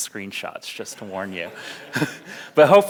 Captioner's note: audience laughs; laughs